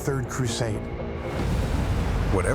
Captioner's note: waves roaring